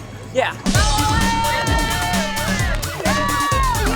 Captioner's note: family cheering